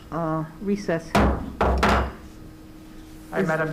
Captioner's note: gavel bangs